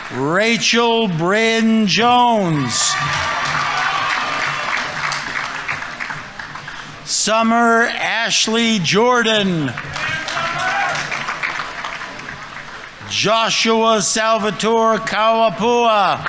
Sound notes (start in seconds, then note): 0.0 audience applauding; 0.0 audience members cheering; 1.8 audience members cheering; 2.5 audience applauding; 9.4 audience applauding